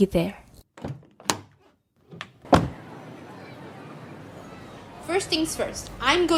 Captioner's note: sounds of car doors open and close, people chattering